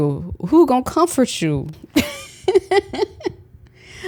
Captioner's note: laughs